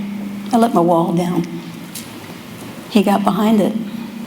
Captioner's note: none